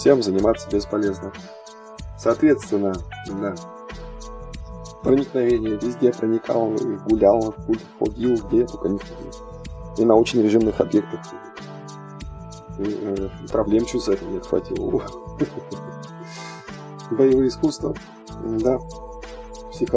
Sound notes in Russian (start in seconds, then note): 15.4 смех